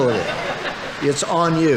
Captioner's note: audience laughing